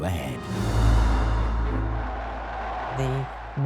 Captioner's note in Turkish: Kalabalık tezahürat ediyor